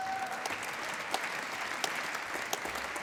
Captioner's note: applause